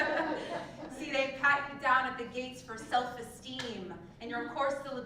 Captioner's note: laugh